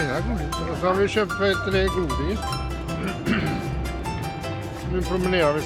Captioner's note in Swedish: harklar sig